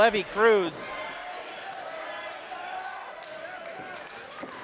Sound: crowd cheering

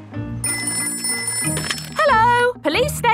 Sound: ringing

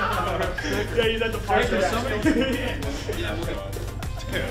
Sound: people laughing

